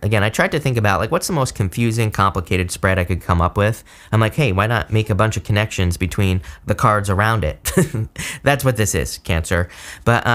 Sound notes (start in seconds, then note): 7.6 chuckles